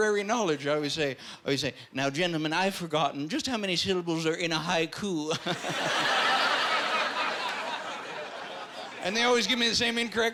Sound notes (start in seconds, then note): 5.4 chuckling